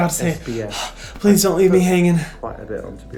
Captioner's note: gasps